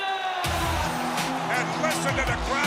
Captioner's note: foreign language spoken; cheers & applause